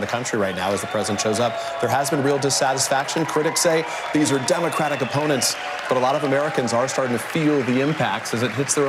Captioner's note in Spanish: gritos